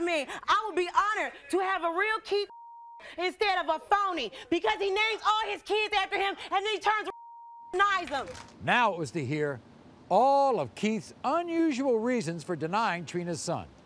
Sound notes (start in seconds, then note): 2.4 beeping; 7.0 beeping